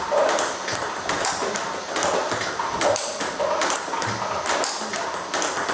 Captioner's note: ball ping pong hitting continues